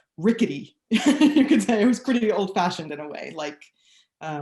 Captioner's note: laughs